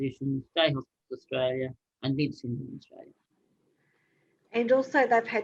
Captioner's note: speaking faintly